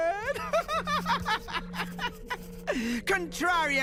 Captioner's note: laughs